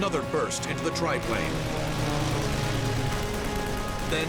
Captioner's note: weapons firing, music playing